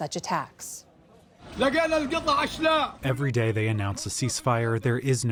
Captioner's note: through translator